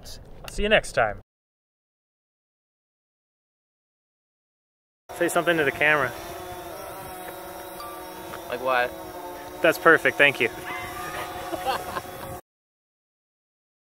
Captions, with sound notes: I'll see you next time Say something to the camera Like what? That's perfect, thank you (laughter)